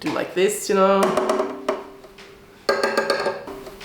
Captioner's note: wood tapping